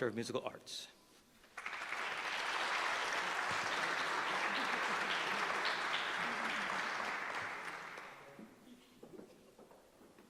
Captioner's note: applause